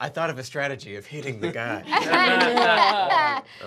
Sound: laughing

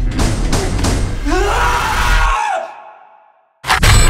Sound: scream

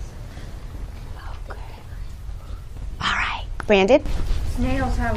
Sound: whispering

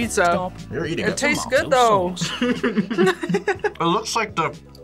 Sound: both laugh

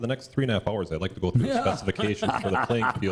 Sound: laughter

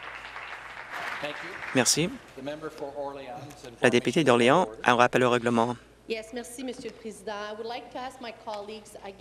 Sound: some Applause

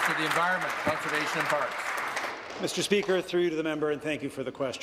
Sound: applause

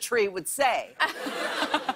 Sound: laughter

